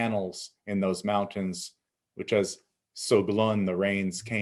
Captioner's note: speaking in Abenaki